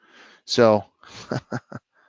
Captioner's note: laughs